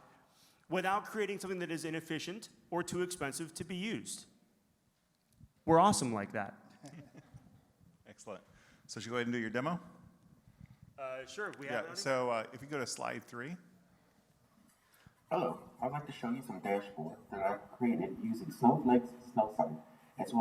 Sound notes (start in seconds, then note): 6.8 giggles